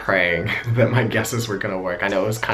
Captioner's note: laughs